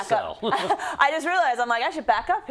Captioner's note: laugh